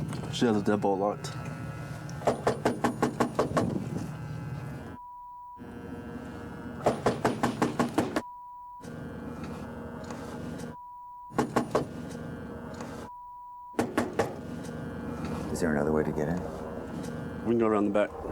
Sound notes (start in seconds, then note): 2.2 knocking on door; 6.8 knocking on door; 11.4 knocking on door; 13.8 knocking on door